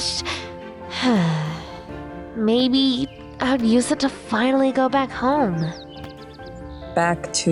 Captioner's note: sighs